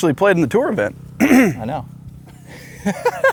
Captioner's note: clears Throat; laughs